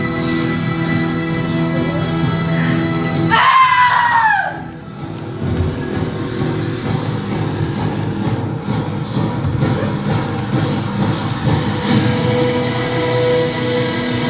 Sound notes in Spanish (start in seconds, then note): 3.2 Gritos